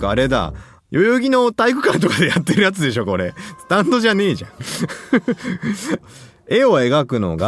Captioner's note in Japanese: 笑い